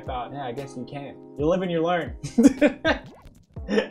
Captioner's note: laughter